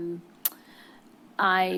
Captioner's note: clicks tongue